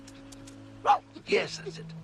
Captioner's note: barks